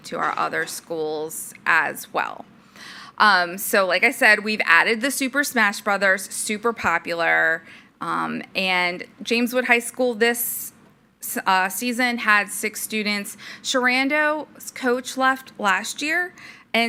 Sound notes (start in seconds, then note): none